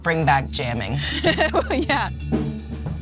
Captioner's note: laughs